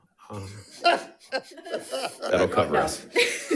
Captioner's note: audience laughing